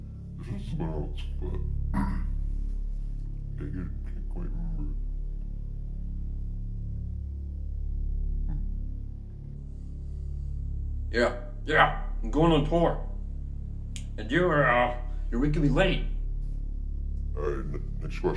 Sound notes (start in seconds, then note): 1.9 clears throat